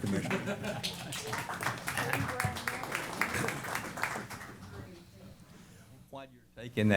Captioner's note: applause